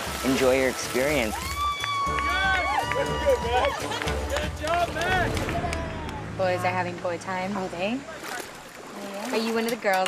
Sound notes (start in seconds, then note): 1.2 all cheering